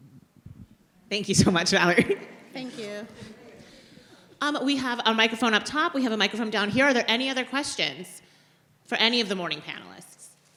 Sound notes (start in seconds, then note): 2.2 audience murmurs; 2.5 chuckles